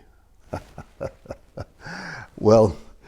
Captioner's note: laughs